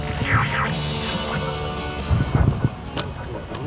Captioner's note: energetic music continues; device squealing